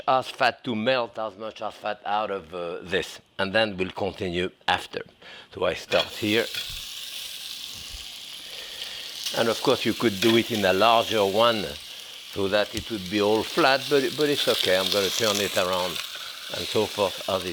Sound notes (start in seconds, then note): 6.9 meat sizzles